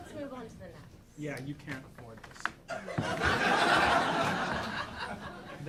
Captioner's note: audience laughing